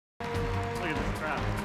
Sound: orchestral opening; applause

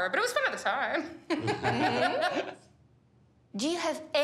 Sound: chuckles

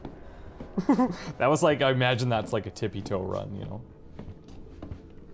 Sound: chuckles

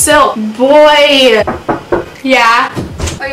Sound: knocking on door

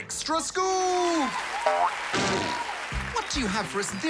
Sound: cheering, applause

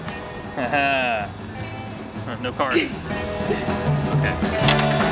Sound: laughing; laughs

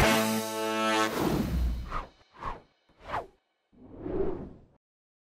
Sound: upbeat music; slides whooshing

